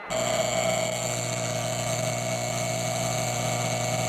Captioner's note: alarm buzzing